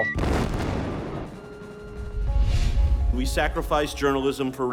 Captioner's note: explosion booming